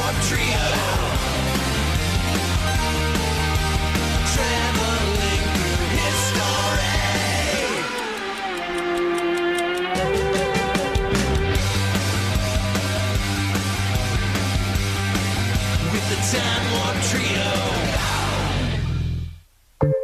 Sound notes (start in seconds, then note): 7.1 clock ticking; 11.1 energetic rock music